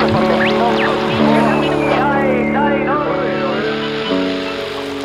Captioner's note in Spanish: ruidos y sonidos de radio